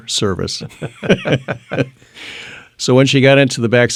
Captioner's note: laughing